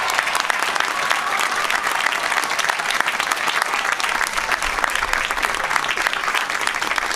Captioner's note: applause